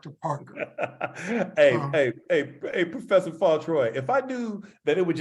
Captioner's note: laugh